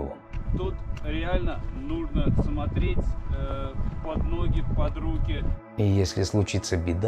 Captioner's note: strong wind